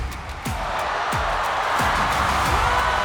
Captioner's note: cheering